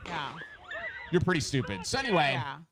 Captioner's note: people screaming